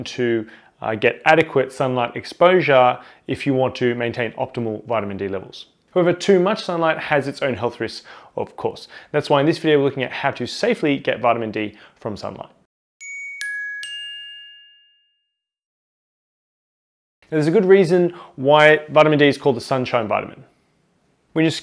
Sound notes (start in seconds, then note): 13.0 bells dinging